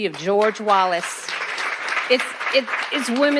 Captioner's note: attendees clap